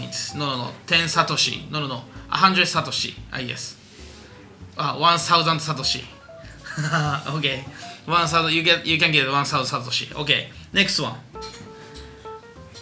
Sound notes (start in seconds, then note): 6.6 laughing